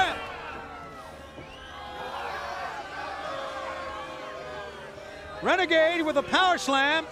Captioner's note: crowd chatter